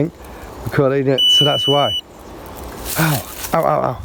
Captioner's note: beeping